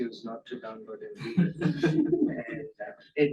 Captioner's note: laughter